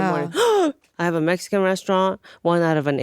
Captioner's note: gasps